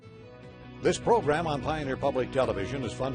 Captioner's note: voiceover